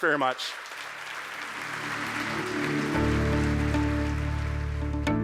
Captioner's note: audience applauding